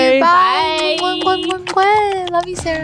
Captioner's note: smooching